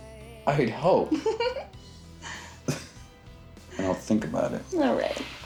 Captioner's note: Sara laughing